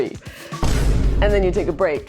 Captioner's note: boom